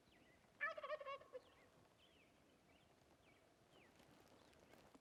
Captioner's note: turkey gobbling